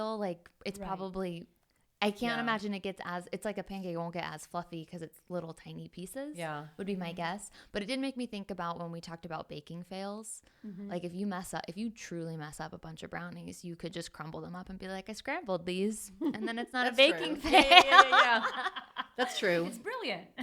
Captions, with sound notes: like it's probably, I can't imagine it gets as, it's like a pancake won't get as fluffy because it's little tiny pieces would be my guess. But it didn't make me think about when we talked about baking fails. Like if you mess up, if you truly mess up a bunch of brownies, you could just crumble them up and be like, "I scrambled these and then it's not a baking fail." (laughing) That's true. It's brilliant.